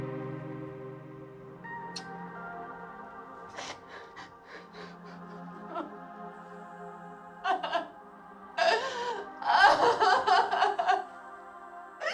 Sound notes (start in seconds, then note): 1.0 gentle music; 4.5 crying; 9.1 gentle music